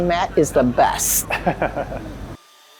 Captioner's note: laughing